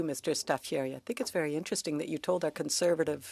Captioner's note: speaking French